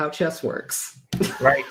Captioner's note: laughs